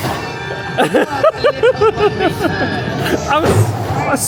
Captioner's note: laughing